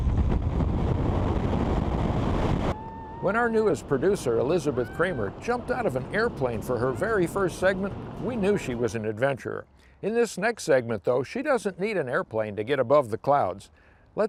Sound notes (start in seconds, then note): 2.7 woman cheers